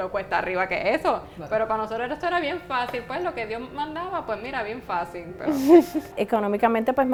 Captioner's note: laughs